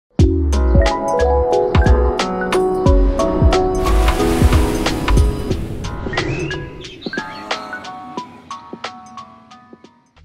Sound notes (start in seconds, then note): 0.2 hip-hop music; 2.7 waves crashing; 6.1 birds chirping